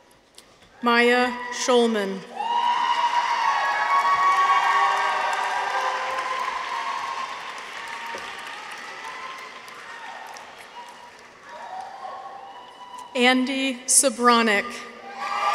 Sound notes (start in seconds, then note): 2.2 people cheer; 2.4 audience applauds; 15.0 people cheer; 15.1 audience applauds